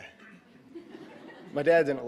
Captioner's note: audience laughing